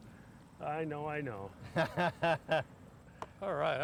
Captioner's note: laughs